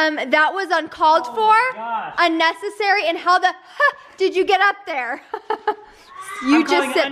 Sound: laughing

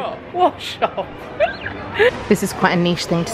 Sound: laughs

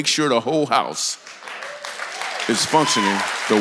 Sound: congregation cheers and applauds

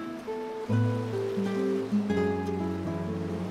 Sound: waves crash gently

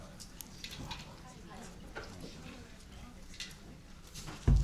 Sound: group murmuring

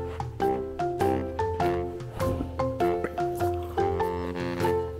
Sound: laughs

